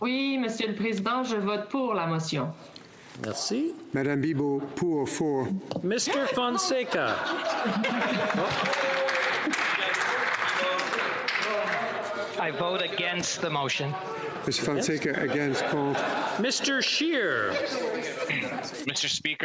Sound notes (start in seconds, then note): 5.8 speaking French; 12.5 applause